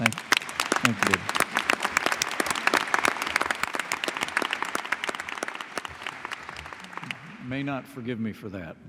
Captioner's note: applause